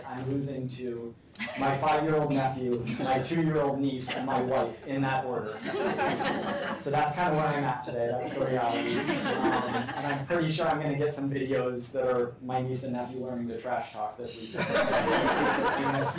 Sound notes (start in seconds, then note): 5.5 laughter